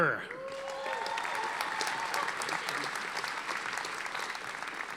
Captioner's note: audience applauding